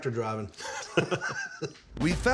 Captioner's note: laughter